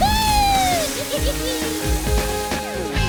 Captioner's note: laughing